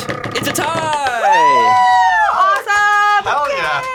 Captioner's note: cheering